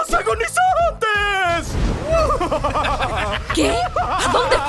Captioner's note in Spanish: Carcajadas Banzai